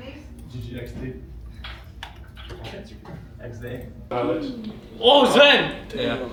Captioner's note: laughs